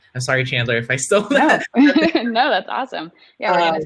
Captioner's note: laughing